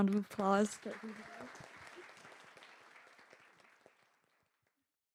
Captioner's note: audience applauding